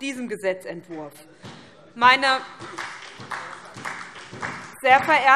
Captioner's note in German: Beifall SPD